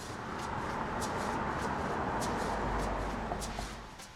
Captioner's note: engine noise